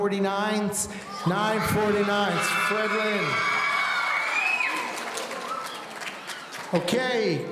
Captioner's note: audience cheering